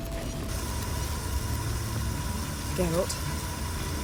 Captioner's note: hissing